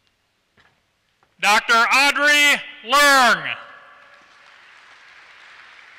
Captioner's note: applause